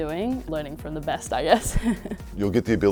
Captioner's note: laughs